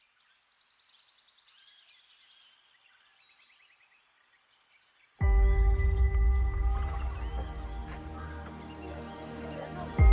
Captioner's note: birds chirping